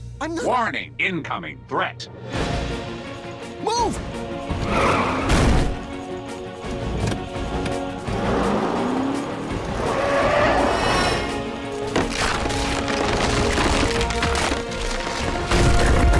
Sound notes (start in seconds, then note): 5.9 tires squeal